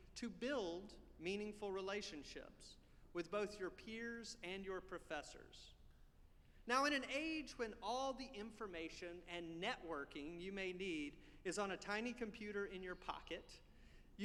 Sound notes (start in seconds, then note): none